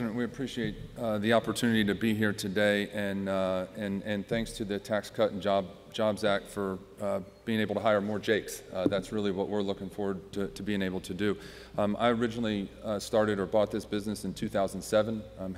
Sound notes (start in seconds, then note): none